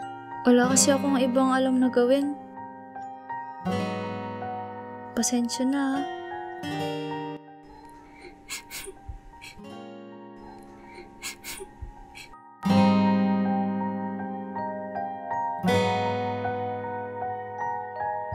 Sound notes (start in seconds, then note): 8.0 Yumi's Crying